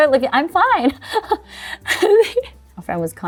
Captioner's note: laughs